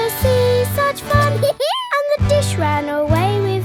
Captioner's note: dog laughs